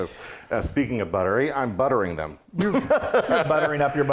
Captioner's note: laughs